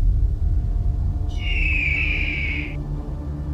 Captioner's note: Eagle Scream